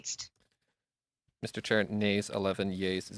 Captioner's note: speaking French